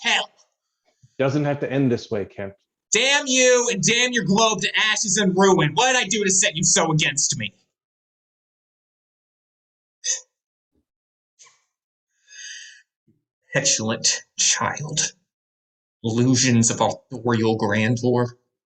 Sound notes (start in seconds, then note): 8.7 silence